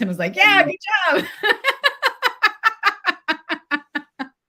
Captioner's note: laughs